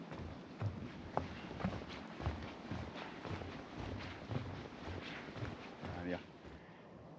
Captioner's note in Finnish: askeleiden ääniä